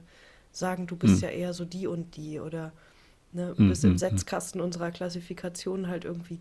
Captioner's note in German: räuspern